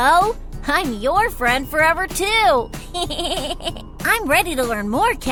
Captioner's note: giggling